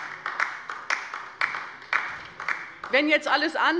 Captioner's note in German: Beifall bei der LINKEN